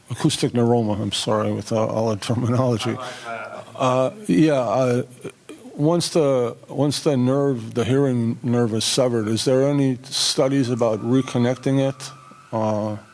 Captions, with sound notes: I'm sorry, with all the terminology. (man speaking off microphone) Once the hearing nerve is severed, is there any studies about reconnecting it?